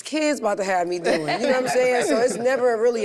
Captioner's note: group chuckles